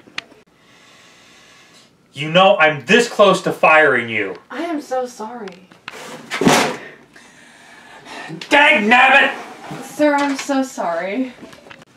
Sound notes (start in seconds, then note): none